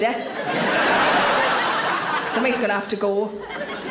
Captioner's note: audience laughs